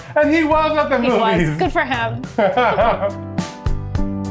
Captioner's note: laughing; calm music